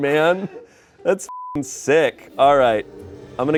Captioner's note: beep